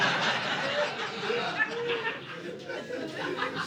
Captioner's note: audience laughing